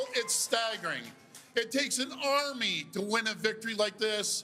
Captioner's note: cheers and Applause